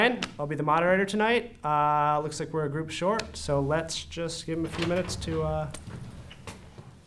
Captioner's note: door opens